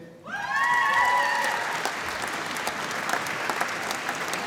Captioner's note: applause